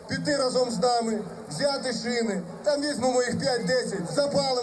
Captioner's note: speaking foreign language